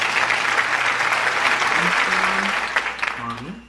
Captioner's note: cheering